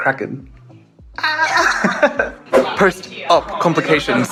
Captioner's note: laughter